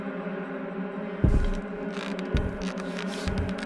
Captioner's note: footsteps on roof